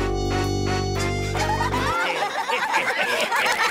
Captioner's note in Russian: Все смеются